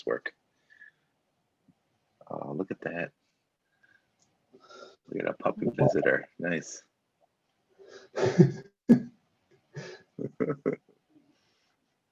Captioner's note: laughs